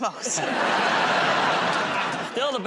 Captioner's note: laughter